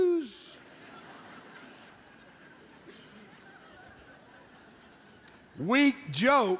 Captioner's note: audience Laughs